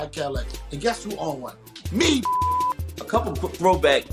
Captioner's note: beep